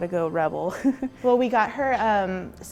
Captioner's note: chuckles